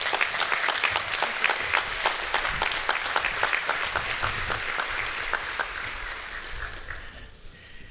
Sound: applause

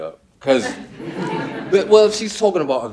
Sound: audience laughing

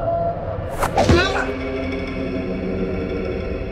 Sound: blow thuds

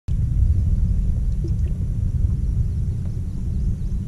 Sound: birds chirping

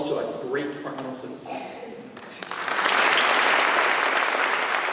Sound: applause

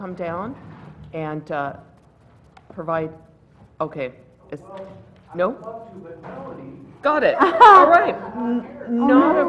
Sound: laugh

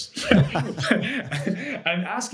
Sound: both laugh

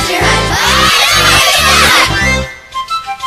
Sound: reversed

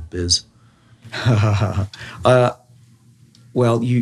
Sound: David chuckles

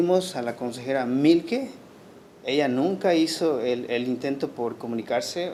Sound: speaking Spanish

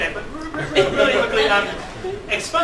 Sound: laughter

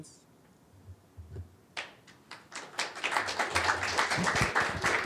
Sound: applause

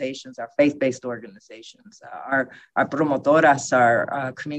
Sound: spanish

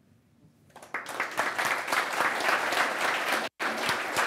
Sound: applause

